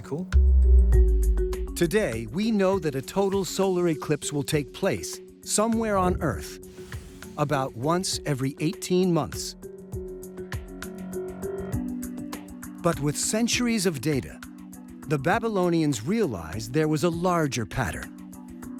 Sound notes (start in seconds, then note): none